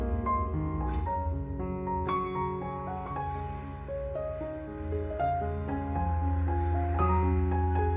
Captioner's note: high-pitched ringing